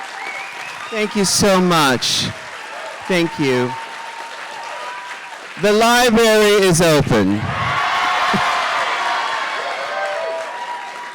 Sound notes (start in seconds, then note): 7.4 audience cheering